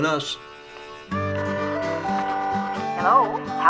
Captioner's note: lively music; phone ringing